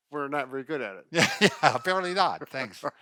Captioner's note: laughter